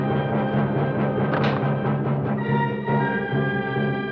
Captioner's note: gun clacks